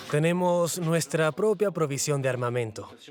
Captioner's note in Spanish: Audio hablado en francés